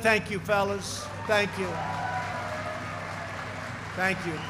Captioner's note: applause